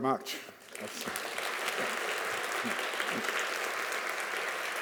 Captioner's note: audience applauds